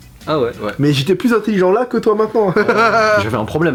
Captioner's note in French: rire